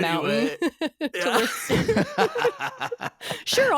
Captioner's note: laughing